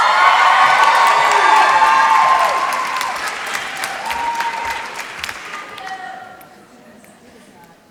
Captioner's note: applause